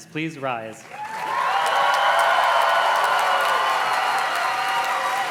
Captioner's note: audience cheers and claps